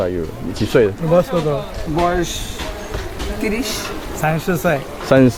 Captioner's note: local language